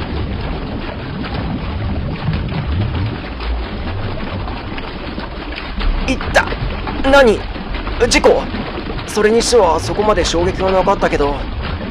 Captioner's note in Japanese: 水音：ｺﾞﾎﾞｺﾞﾎﾞｺﾞﾎﾞ…